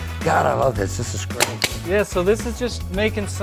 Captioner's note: nail gun clicking